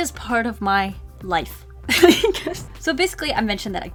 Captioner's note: laughs